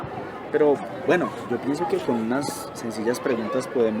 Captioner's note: none